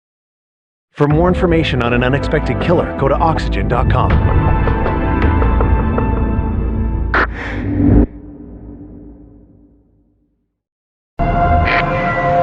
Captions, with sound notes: For r more i informatition n An Unenexpected d Killer g go Oxygygen.com (quickck inhale e of oxygeg)